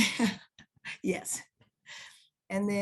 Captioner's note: laughs